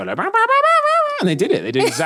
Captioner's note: imitating guitar sounds